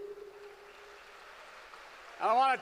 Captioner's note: applause